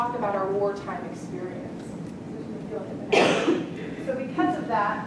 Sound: cough

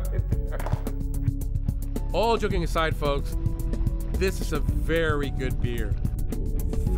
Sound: laughs

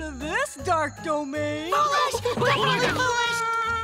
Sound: crying

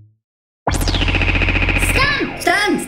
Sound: laser blasts

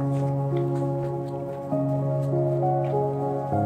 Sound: footsteps crunching

